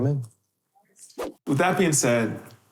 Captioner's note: air whooshing